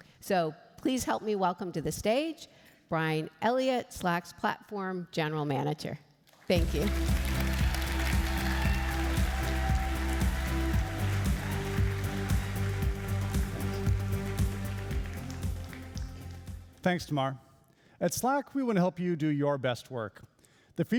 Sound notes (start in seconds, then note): 6.5 applauding and cheering; 6.5 upbeat music